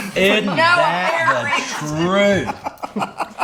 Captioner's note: laughs